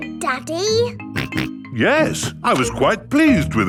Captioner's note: snorts